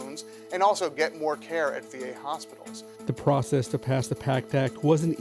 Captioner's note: voiceover